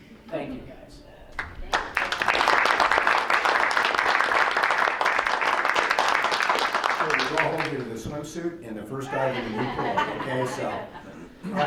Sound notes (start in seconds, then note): 1.4 crowd applauds; 9.0 laughing